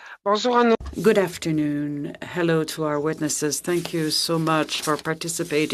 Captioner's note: speaking French